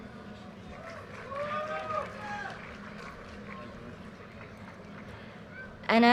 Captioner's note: audience cheers and applause